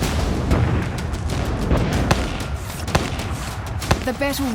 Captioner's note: canons firing; tense music